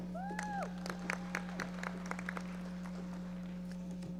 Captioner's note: audience applauding